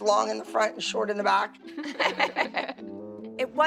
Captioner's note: laughing